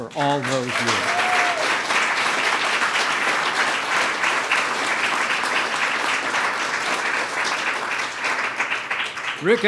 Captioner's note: applause